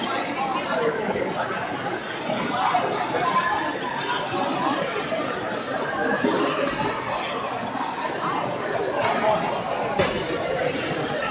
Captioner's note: crowd chattering